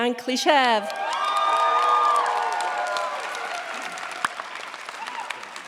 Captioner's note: cheers, applause